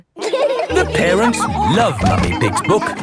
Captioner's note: all laughing